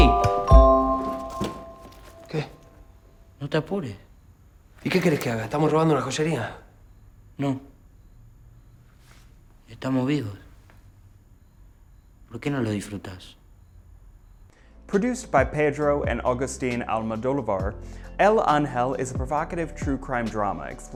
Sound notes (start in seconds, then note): 1.9 Ramon speaks in foreign language; 3.9 Carlitos speaks in foreign language; 5.1 Ramon speaks in foreign language; 7.7 Carlitos speaks in foreign language